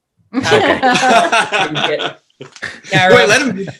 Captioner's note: all laughing